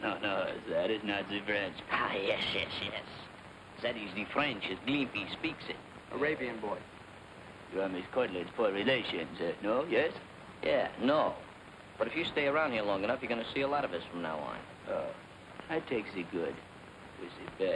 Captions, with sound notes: That is not the French. (FRENCH ACCENT) Ah, yes, yes, yes. That is the French as Glimpy speaks it. Arabian boy. You are Miss Cortland's poor relations, no? Yes? -Yeah. No! But if you stay around here long enough, you're going to see a lot of us from now on. Oh. I'll take the good with the bad.